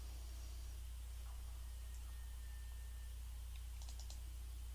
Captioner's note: mouse clicking